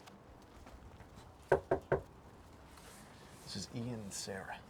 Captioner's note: door knocking